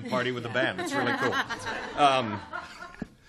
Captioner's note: chuckles